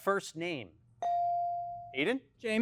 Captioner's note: bell chiming